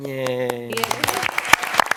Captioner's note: applause